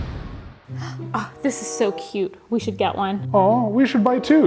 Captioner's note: food exploding; gasps